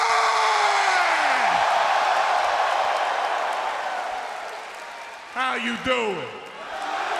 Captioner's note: cheers and applause